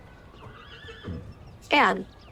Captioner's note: horse neighing